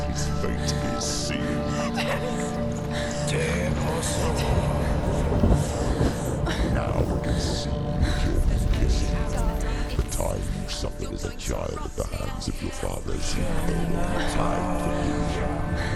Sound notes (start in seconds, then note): 5.0 indistinct chatter